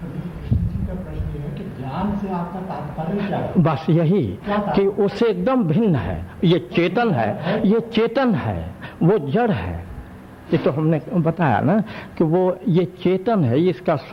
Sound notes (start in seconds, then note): 2.6 discussion in Hindi